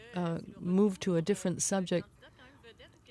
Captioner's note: speaking French